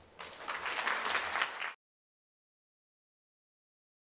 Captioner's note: audience applauding